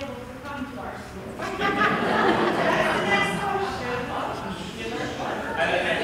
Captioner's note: laughter